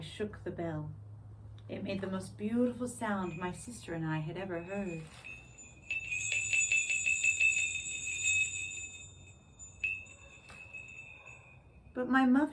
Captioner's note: rings sleigh bells